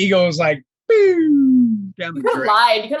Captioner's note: making slide whistle noise